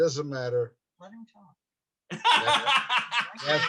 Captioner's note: laughing